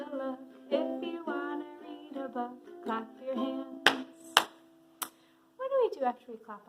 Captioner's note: clapping